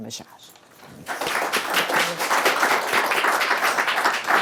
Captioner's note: applause